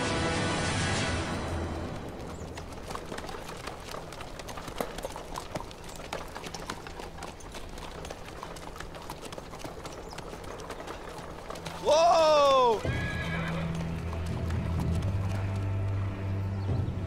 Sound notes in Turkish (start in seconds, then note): 2.3 Nal ve kağnı sesleri; 12.4 Kişneme sesleri